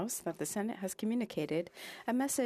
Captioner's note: speaking French